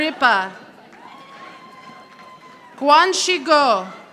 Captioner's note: audience applauding